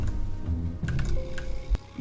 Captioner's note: windows beep